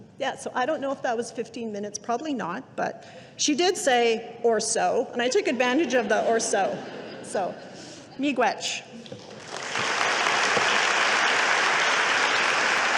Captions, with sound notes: Yeah, so I don't know if that was 15 minutes. Probably not, but she did say or so, and I took advantage of the or so. So (speaking indigenous language). (audience applauding)